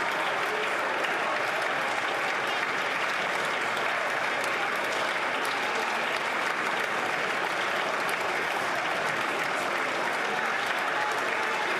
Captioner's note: applause